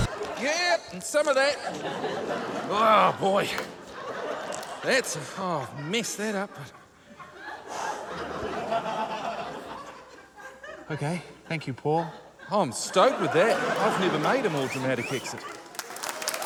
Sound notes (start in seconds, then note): 7.6 exhales; 15.3 cheering, applause